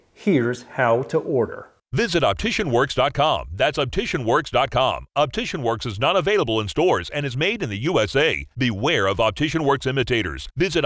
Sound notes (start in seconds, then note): 2.2 voiceover